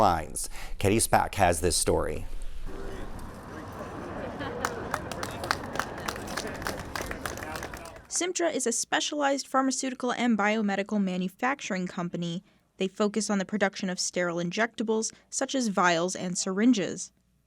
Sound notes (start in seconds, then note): 7.0 applause